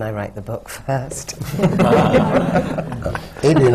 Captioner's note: laughter